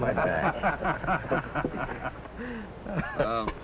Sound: laughter

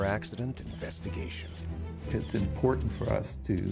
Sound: voiceover

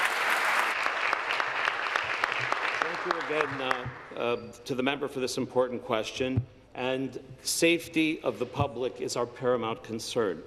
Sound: applause

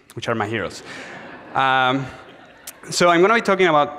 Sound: audience laughs

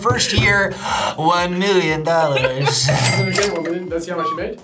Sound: both laugh

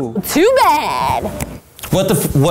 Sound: snaps fingers

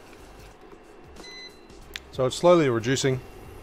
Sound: stove beeps

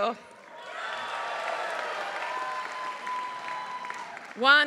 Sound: applause

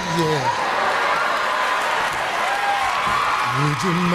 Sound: audience cheers

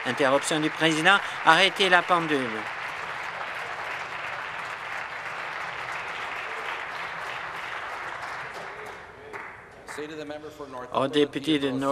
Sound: applause

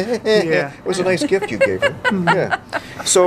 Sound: laughter

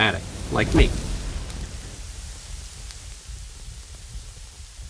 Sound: fire roaring

